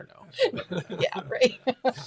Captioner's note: laughs